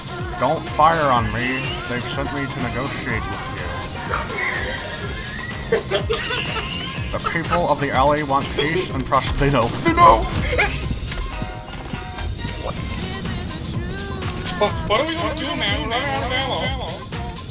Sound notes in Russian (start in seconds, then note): 3.5 хиханьки хаханьки